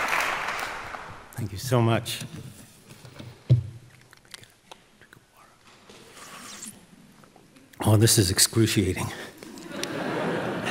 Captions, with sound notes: - Thank you so much. (whispers) Drink of water. Oh, this is excruciating.